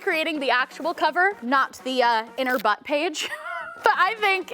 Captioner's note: laughs